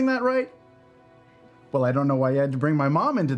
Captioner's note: silence